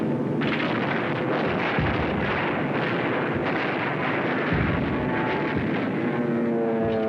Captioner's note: explosions